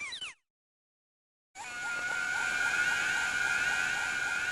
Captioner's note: Skull Kid screaming